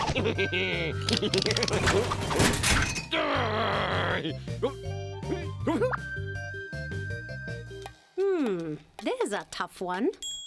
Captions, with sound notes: (laughs wickedly) (groans) OH! (whimpers) HMM, THERE'S A TOUGH ONE.